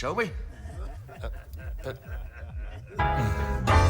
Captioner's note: laughter